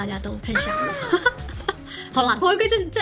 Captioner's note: laugh